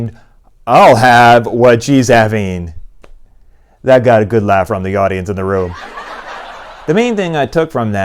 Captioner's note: laughing